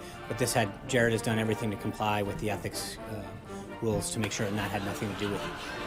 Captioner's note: raucous laugh track